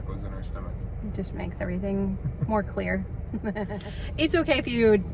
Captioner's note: laughs